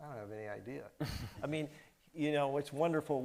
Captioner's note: chuckles